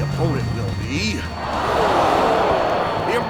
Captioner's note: crowd gasps